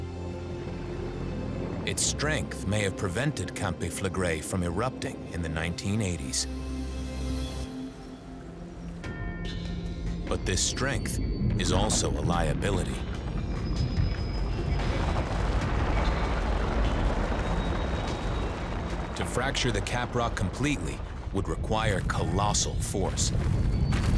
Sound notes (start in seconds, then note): 14.2 rumbling, rock crumbling; 24.0 rumbling, small explosions echoing